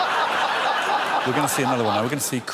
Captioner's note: laughter